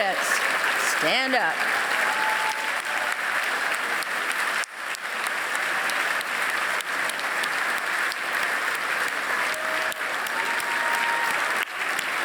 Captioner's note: applause